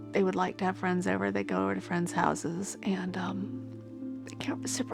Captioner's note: voice breaking